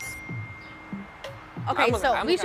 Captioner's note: phone dings